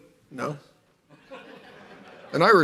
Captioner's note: laughter